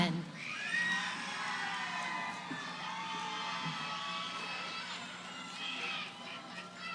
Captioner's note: cheering